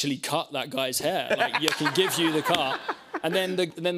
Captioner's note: laughter